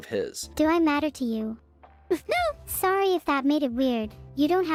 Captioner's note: sobs